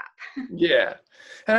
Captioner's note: laughs